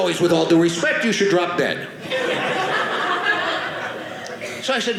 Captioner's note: audience laughing